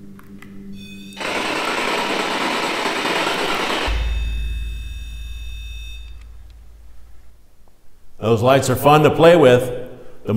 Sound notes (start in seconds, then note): 0.7 device beeping; 0.8 static buzzing